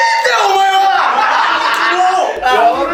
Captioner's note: laughs